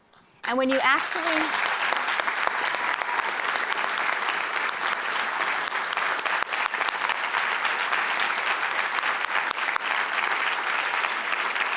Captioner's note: audience applause